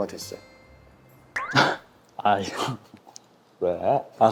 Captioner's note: suddenly cracks up